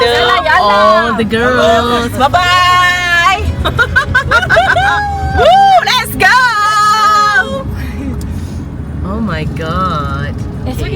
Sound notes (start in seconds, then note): 3.6 laugh